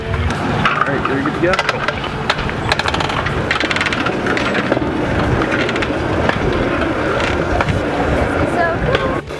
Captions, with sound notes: Alright, you’re good to go! -Cool (pedals squeak) This is so cool!